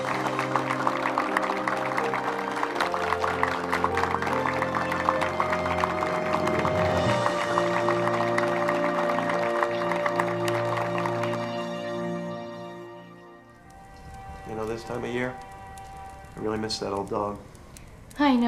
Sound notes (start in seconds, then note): 14.2 fire crackling; 14.2 gentle music